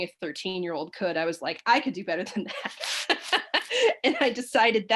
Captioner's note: laughs